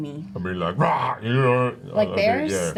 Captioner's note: roars